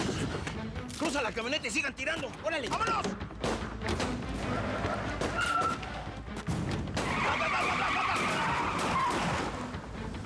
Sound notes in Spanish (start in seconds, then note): 3.9 sigue el tiroteo; 4.3 chirrido de neumáticos